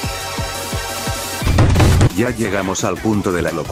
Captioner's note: sound of hitting the desk